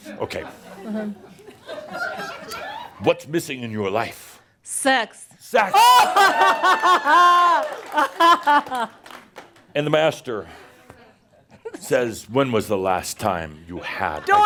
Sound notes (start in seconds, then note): 0.0 more chuckles; 5.8 lots of laughter